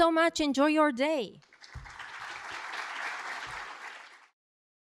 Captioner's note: applause